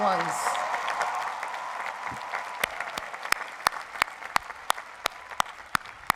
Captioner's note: crowd cheers and applauds